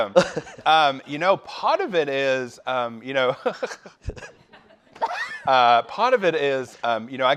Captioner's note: laughing